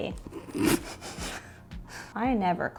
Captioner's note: chuckles